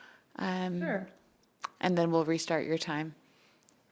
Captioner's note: speaking French